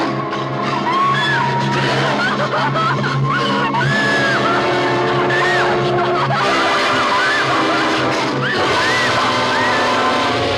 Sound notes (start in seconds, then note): 0.1 suspenseful music; 3.3 crying and gasping loudly